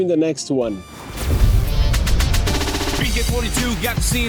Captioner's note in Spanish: Explosión del logo de BK42